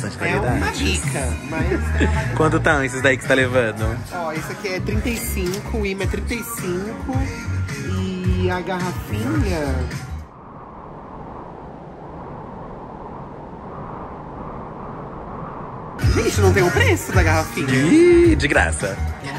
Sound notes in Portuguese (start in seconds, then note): 10.2 som de ventania